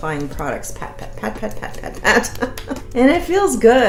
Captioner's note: laughs